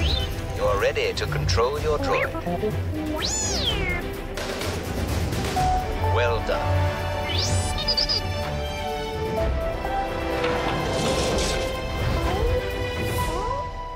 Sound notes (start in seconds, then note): 3.1 high-pitched robotic squeak; 7.2 robot whoopees